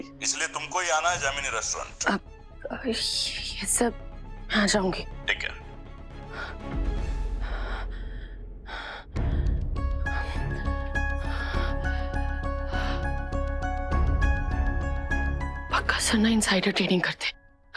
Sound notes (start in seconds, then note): 7.4 gasping; 9.2 exhaling